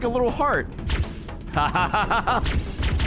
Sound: laughs

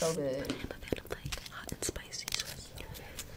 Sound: whispers

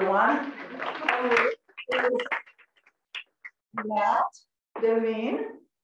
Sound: applause

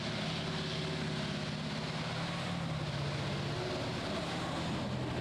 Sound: engine revs

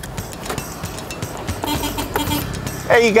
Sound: horn honking

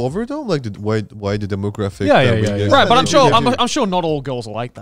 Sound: group chattering

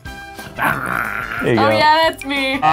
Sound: growls

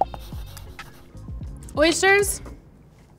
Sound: pencil scribbling

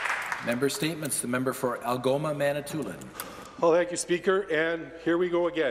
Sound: some Applause

